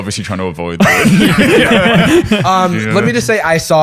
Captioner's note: laughter